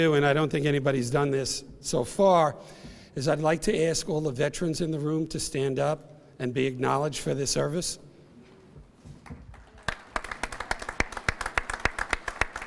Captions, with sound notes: and I don't think anybody's done this so far, is I'd like to ask all the veterans in the room to stand up and be acknowledged for their service. (applause)